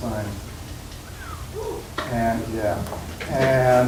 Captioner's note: whistling